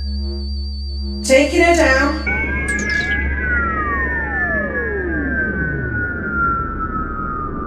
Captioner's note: spacecraft whirring